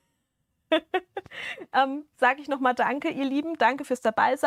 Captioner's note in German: Gelächter